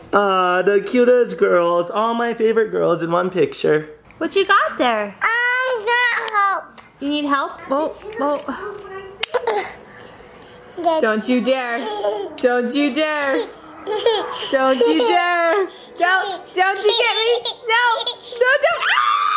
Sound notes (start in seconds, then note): 5.4 babbles; 13.2 giggling